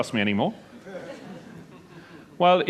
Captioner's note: laughter